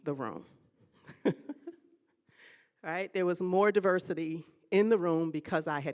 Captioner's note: laughing